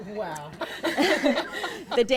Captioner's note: laughter